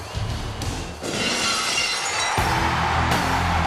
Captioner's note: glass shattering; audience cheering; rock music